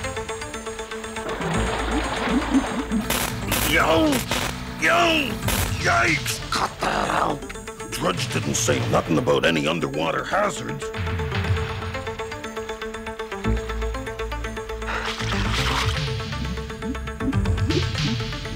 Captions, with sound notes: Ouch! Yow! Yikes! Cut that out. Drudge didn't say nothing about any underwater hazards. (inhales)